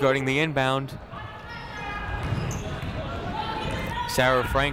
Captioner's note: people shouting in the crowd